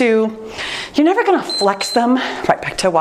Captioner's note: timer beeps